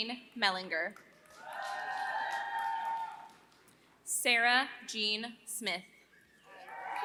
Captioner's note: applause; applause